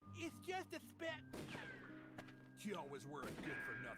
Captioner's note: gunshot